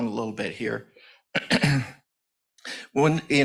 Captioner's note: clears throat